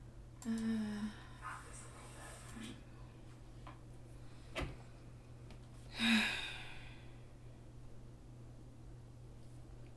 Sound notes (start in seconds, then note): 5.9 Natalie sighs